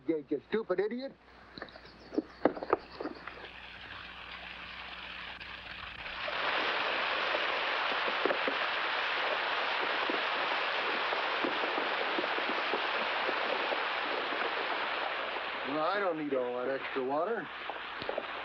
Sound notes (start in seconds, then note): 6.3 water rushing